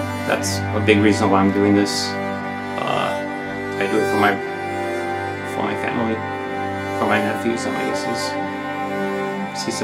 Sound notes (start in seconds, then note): 8.3 speaks Spanish